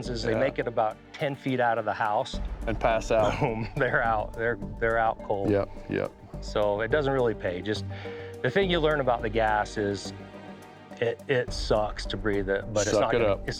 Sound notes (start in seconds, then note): 3.1 laughs